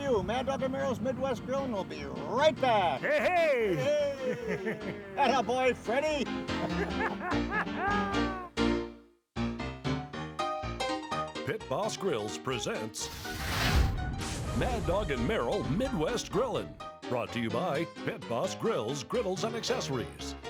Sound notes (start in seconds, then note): 6.3 laughing; 13.0 explosion effect